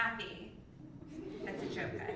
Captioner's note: laugh